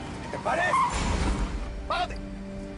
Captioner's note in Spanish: Frenazo